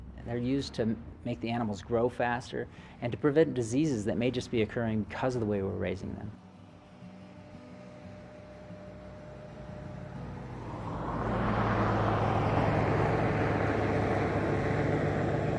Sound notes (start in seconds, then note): 11.2 engine roaring